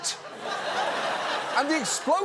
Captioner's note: audience laughs